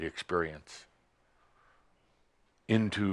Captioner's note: none